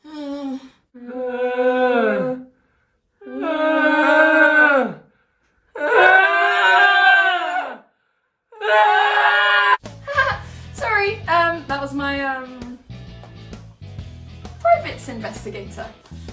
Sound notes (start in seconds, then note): 0.6 man and beast share screams of abject despair